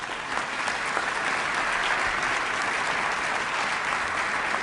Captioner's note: applause